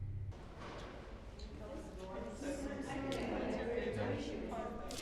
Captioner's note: chatter about the war